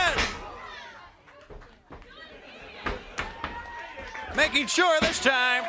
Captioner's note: crowd cheering